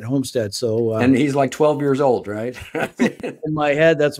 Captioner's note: laughs